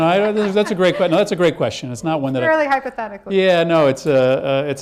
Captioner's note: laughs